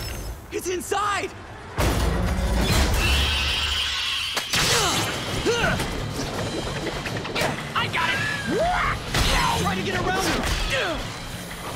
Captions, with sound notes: It's inside! [screeching] [grunting] I got it! Try to get around him!